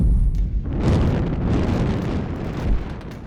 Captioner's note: explosion